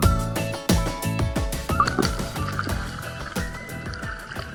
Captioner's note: sound: breaking through water